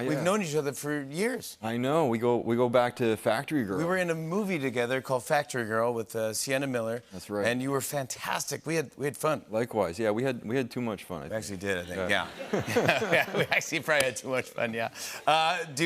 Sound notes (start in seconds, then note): 12.2 laughs